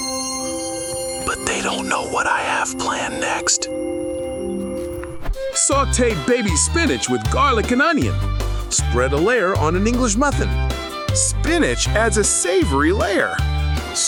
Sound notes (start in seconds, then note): 0.1 suspenseful tone; 1.3 whispering